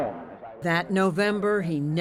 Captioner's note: voice-over